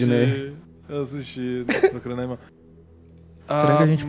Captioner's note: laughs